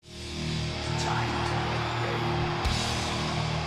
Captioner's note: fans cheering